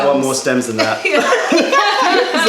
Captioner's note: laughter